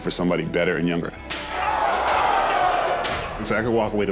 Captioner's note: crowd exclaiming